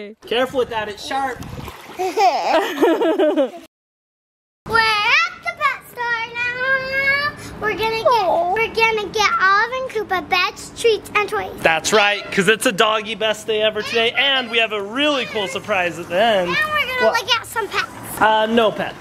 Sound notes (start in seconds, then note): 2.0 giggles; 2.0 laughs